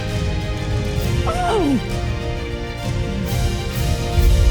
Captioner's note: gasps